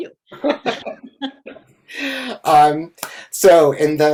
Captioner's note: everyone laughing